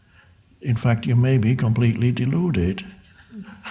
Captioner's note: laughs